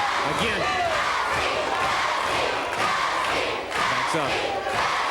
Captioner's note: audience chanting